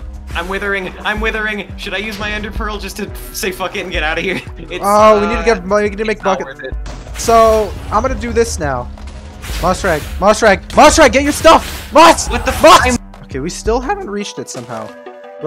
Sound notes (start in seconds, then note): 6.9 approaching explosions